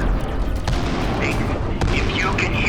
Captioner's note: explosion booming